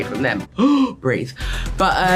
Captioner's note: gasps